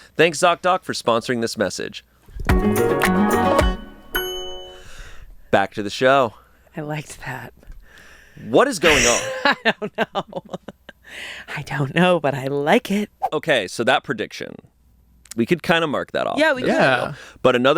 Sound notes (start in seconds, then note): 2.5 bright music; 8.8 laughs